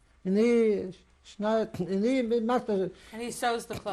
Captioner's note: non-english